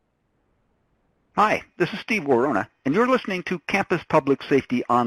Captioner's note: voiceover